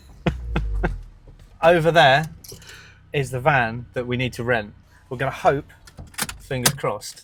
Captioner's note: laughs